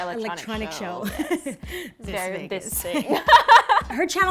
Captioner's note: laughing